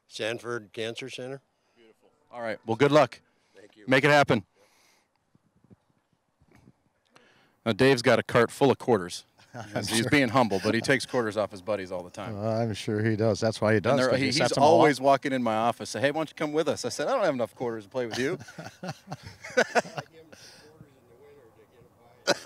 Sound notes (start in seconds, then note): 18.1 laughing